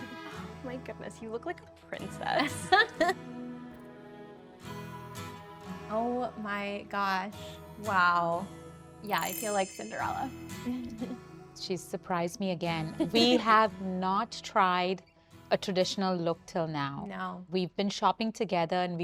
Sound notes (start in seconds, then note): 2.4 laughing; 4.0 gentle music